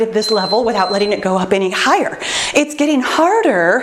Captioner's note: timer beeps